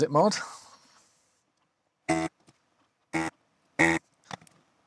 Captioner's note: buzzing